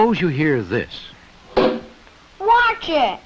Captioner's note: bang!